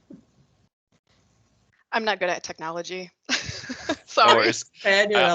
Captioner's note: laughes